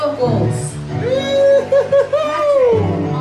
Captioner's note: cheering